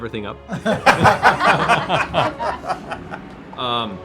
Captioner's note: laughter